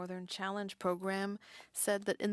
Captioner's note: speaking French